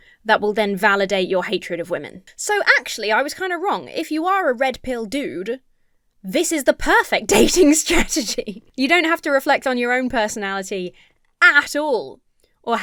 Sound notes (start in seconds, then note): 8.1 laughs